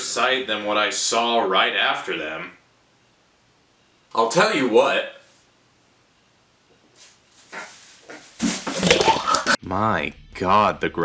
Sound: vomit

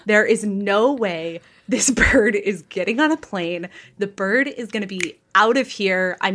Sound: snaps

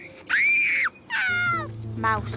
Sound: screaming

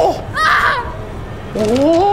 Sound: scream

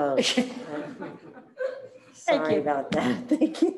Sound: all laughing

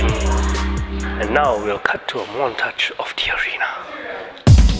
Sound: dramatic whisper

